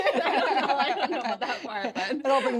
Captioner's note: laugh